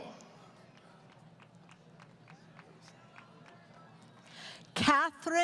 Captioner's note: applause